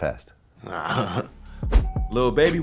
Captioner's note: laughing